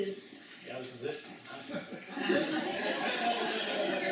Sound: laughter

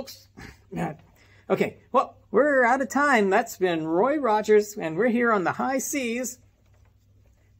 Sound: grunts

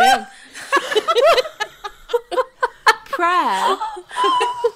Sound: laughing

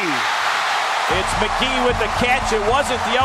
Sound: voiceover

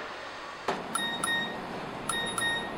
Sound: phone dings

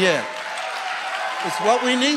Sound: audience cheering and applauding

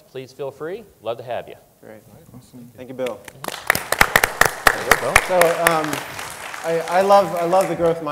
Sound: applause

